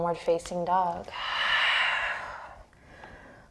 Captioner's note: exhaling breath